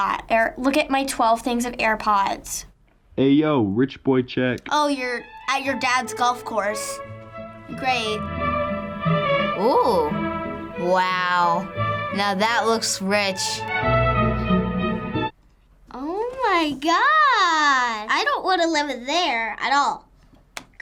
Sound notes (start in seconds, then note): 3.0 voice-over